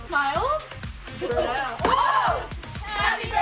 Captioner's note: girls exclaim